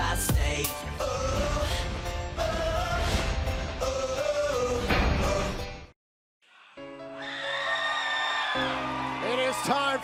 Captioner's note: crowd cheering